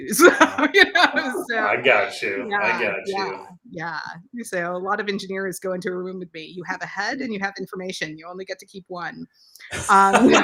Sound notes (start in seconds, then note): 0.0 laughs